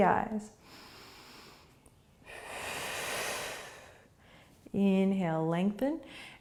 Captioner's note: breathing